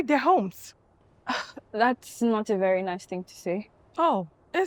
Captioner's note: scoffs